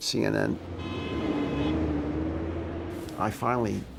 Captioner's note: traffic roaring; horn honks